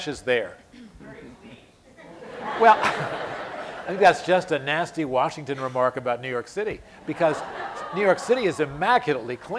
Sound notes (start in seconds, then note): 2.1 laughter